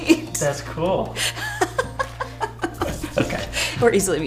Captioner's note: laughter